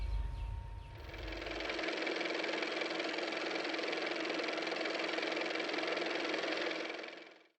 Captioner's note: car motor